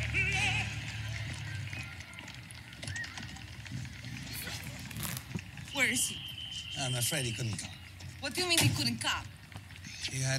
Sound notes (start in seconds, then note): 1.9 children playing